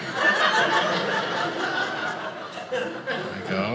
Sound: audience laughing

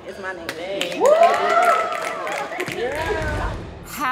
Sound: audience snapping; audience cheering

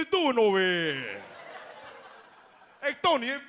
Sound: audience laughs

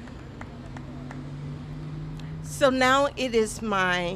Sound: applause

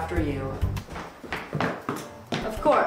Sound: heels clanking

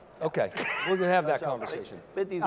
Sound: laughing

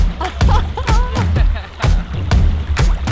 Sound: laughing

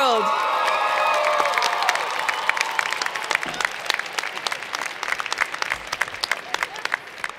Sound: cheers and Applause

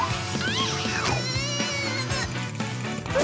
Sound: screaming

